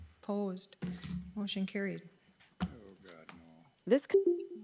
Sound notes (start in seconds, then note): 4.1 comms beep